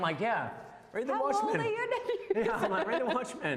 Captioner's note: laughs